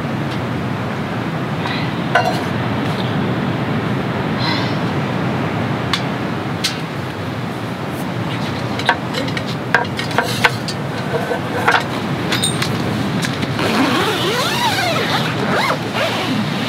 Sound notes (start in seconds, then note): 4.4 sighs